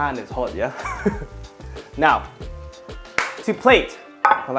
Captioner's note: chuckles